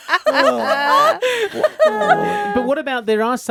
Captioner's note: laughing